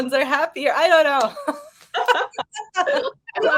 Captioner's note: women laughing